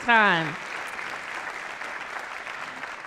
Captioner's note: applause